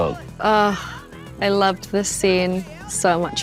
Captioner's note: sighs